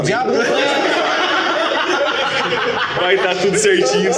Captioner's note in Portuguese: Risadas